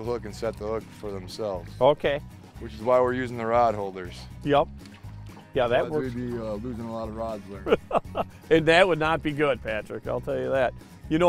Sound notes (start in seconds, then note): 7.6 laughing